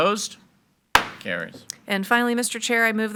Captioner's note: gavel bangs